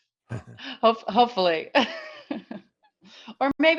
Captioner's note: laughs